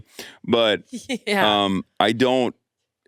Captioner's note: laughs